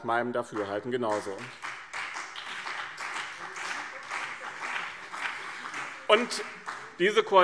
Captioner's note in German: Beifall BÜNDNIS 90/DIE GRÜNEN und CDU